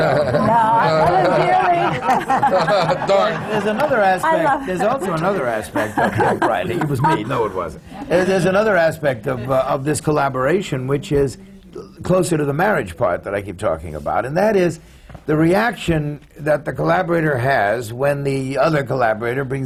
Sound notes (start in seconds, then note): 3.6 laughter; 6.3 laughs